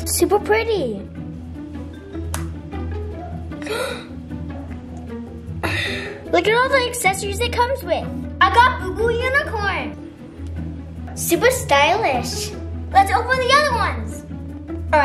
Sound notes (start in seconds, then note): 2.7 lid clicks; 5.6 child gasps